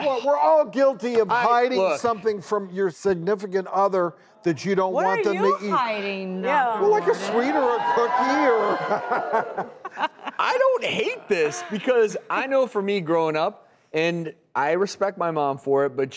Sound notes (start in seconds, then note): 6.9 cheering; 8.8 laughing